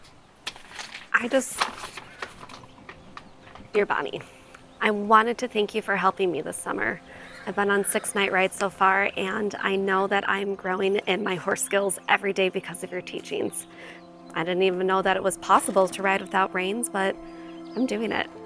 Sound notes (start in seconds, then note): 0.0 paper rustling